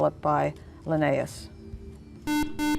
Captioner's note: buzzer